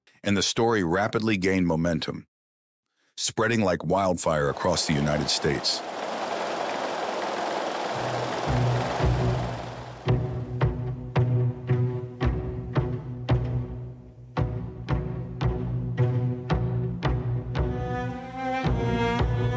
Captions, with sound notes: and the story rapidly gained momentum, spreading like wildfire across the United States. (printing press whirring) (suspenseful music)